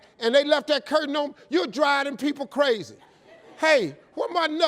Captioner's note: audience laughing